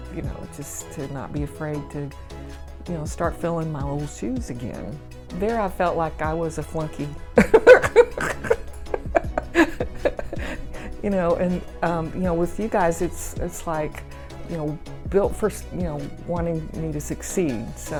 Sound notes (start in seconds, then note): 7.4 chuckling